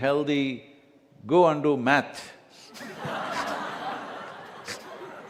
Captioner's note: laughter